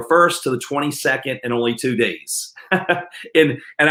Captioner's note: chuckles